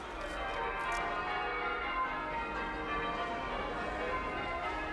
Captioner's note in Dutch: kerkklokken luiden